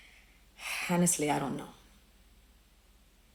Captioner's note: sighs